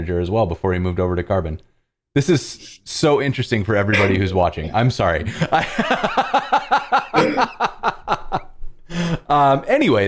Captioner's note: laughter